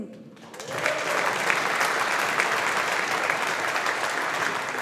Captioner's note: audience applauding